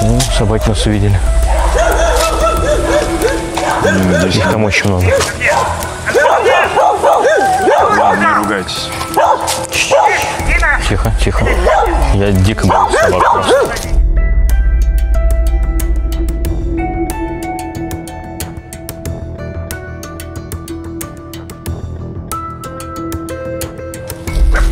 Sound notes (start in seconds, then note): 5.5 dogs barking